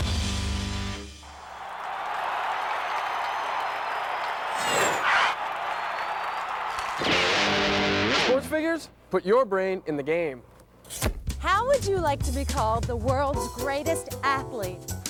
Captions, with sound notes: ( crowd cheering ) SPORTS FIGURES-- PUT YOUR BRAIN IN THE GAME. HOW WOULD YOU LIKE TO BE CALLED "THE WORLD'S GREATEST ATHLETE"?